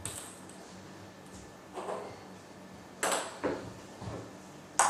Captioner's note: balls ping pong hitting continues